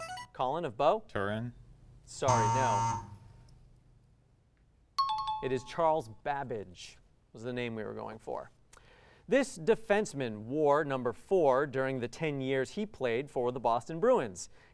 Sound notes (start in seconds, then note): 2.2 buzz